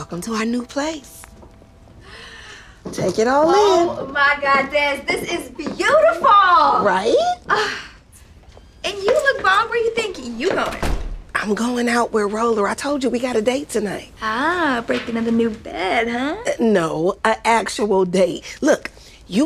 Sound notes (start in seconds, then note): 2.0 gasps